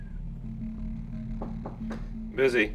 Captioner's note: knocking on door